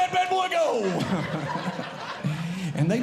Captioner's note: audience Laughing